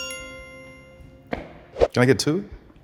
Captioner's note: bell chimes